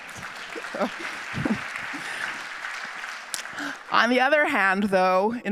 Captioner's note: audience applauding